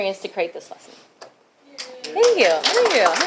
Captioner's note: applause